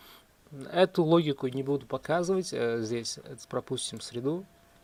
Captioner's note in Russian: none